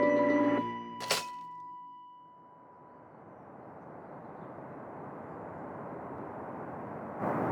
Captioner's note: slides clicking; wind howling